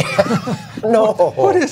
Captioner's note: laughter